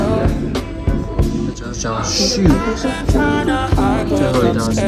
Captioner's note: puffs